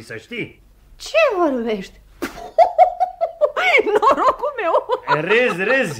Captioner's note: laughs